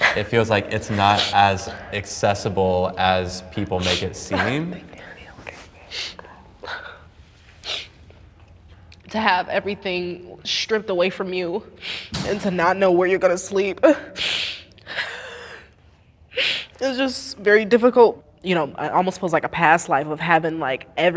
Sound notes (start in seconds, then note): 5.0 whispers softly; 14.8 sobs softly